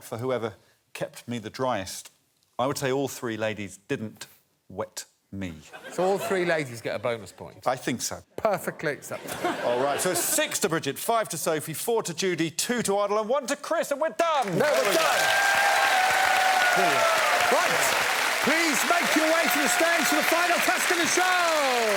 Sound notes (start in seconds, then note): 17.8 cheers and applause